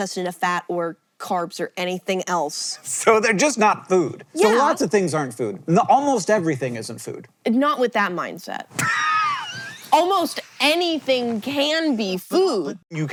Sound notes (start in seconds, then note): 8.8 HANK wheeze-laughs